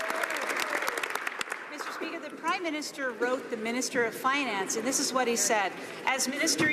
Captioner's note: some Applause